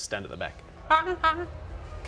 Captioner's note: comedy horn squeak